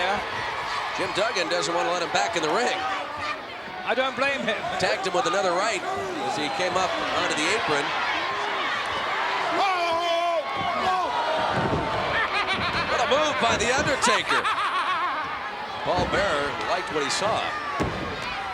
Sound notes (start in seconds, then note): 11.4 body slams; 12.1 Paul laughing